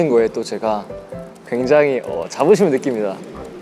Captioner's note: there's a noisy commotion